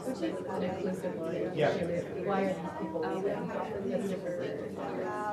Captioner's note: audience mumbling